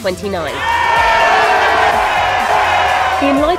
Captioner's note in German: Jubel